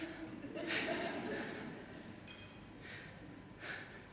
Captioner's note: laughter from audience